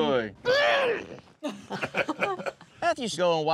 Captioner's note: everyone laughs